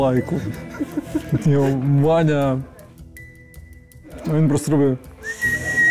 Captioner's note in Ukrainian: свистить